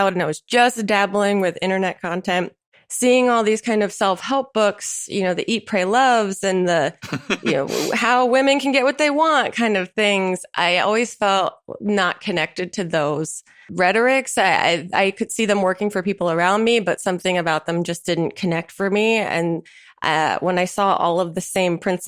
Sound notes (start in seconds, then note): 7.0 chuckles